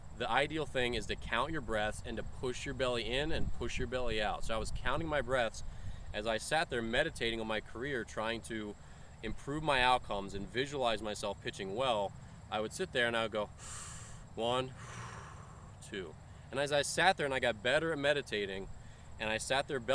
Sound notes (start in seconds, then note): 14.6 breathes in, then out